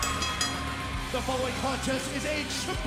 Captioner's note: bell ringing